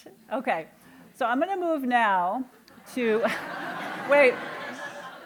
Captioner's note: laughter